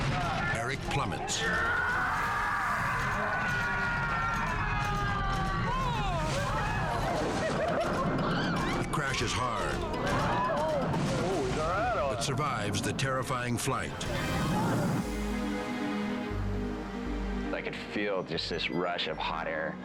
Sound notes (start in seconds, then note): 1.8 screaming; 6.1 people exclaiming